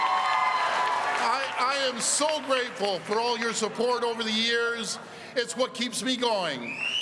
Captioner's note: cheering